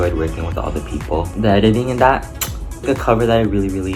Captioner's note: chef’s kiss